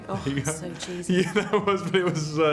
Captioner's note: laughter